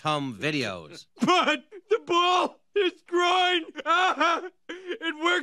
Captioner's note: laughing